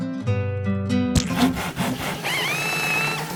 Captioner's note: construction sounds